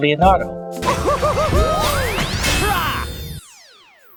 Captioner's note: laughs